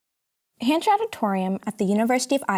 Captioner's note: voiceover